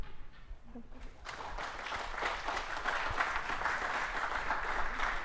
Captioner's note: applause